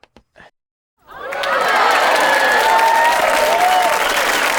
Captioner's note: audience applauding